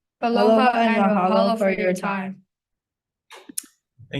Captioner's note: students speaking in foreign language